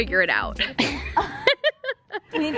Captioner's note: laughing